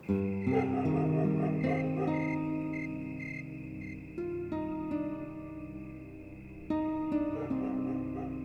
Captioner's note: crickets chirp, dogs bark; dogs continue barking